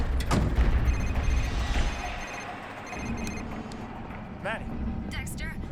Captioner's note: tires screeching; phone ringing